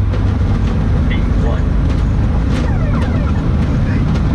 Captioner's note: engine roars